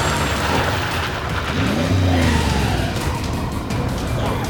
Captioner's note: tires screeching